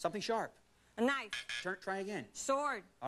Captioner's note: buzzer